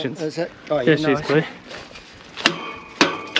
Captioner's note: laughing